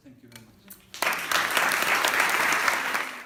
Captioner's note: applause